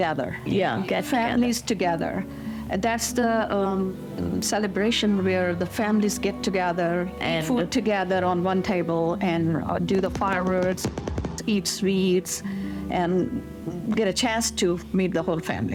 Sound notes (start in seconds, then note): 10.0 firecrackers popping